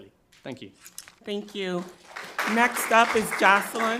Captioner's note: crowd clapping